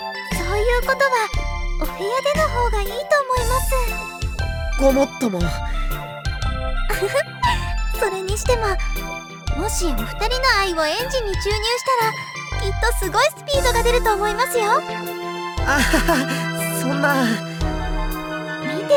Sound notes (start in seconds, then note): 6.9 giggle; 15.7 awkward laugh